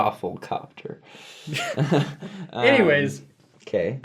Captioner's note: laughs